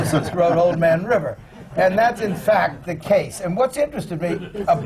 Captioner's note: laughter